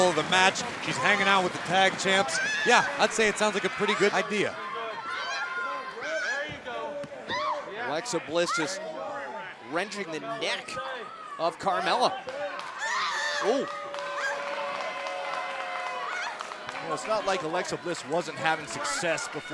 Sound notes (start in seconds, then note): 6.8 crowd cheering; 15.1 crowd cheering